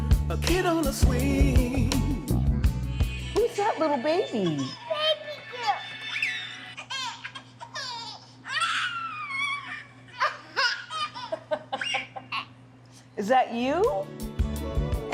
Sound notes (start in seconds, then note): 6.2 baby laughs; 10.1 laughs